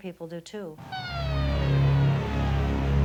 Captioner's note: siren